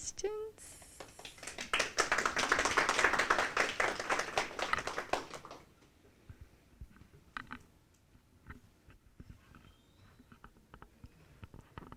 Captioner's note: applause